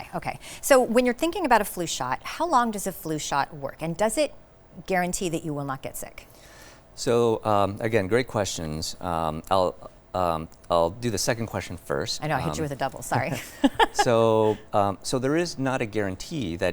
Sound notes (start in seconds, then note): 13.0 laughs